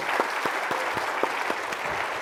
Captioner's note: applause